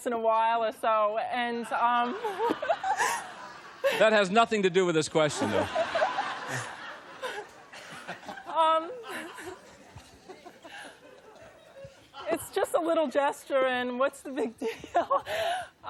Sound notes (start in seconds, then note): 5.3 laughter